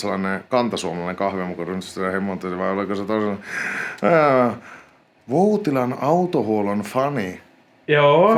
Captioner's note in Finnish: huokaisee